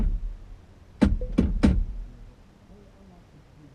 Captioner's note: steering wheel turns